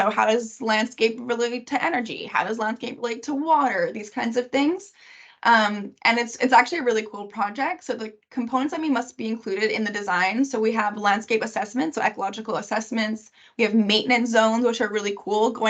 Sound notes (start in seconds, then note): none